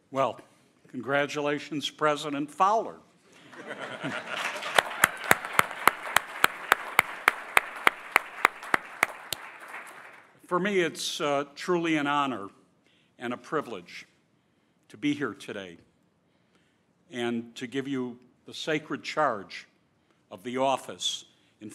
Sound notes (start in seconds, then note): 3.4 chuckling; 3.4 audience applauding